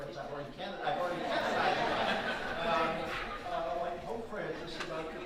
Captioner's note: audience laughing